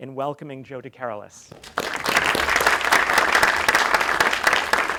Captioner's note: applause